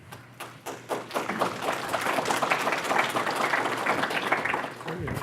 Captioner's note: audience applause